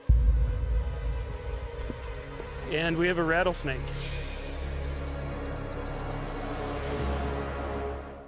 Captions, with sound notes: (music intensity increases) And we have a rattlesnake. (snake rattling)